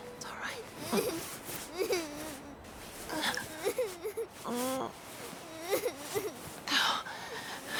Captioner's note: Rachel moans; Meg cries